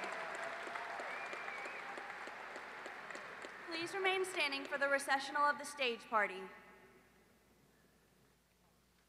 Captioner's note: applause